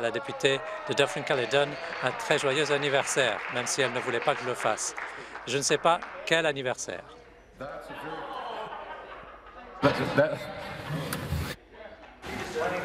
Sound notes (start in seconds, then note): 4.8 applause